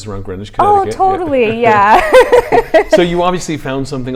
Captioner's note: laughs